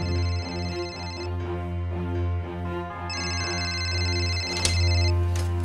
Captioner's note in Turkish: Telefon çalıyor